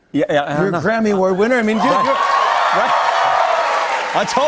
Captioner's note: cheers and applause